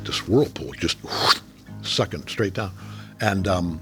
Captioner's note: J.K. imitating sucking whirlpool